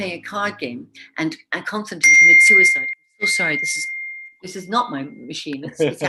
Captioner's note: phone dings